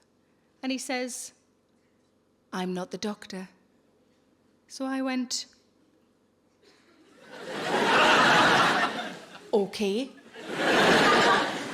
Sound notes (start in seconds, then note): 7.2 audience laughing